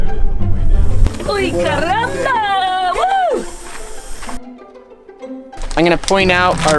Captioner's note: speaking in a foreign language